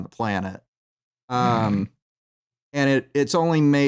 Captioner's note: snorts